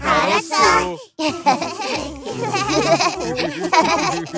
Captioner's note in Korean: 친구들의 웃음